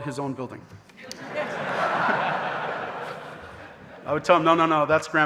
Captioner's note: audience laughing